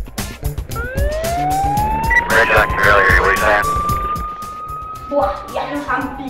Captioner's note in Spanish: Helicóptero, sirenas y emisora de policía